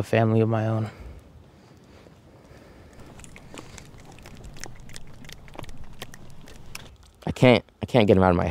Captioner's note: group snapping in encouragement